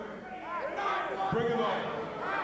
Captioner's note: crowd chatter